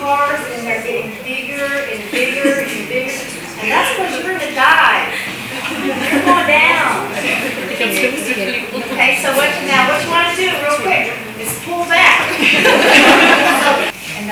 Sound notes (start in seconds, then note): 5.2 laughter; 12.2 laughter